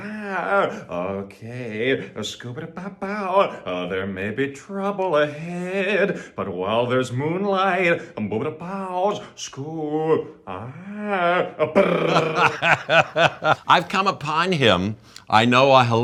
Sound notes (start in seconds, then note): 9.8 male character imitates growling; 13.3 Jeff laughing